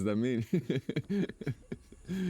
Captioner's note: worried laughter